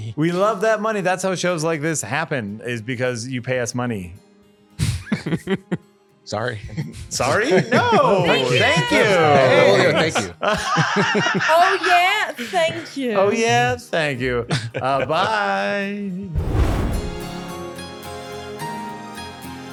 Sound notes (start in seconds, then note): 11.3 all laughing; 16.4 upbeat music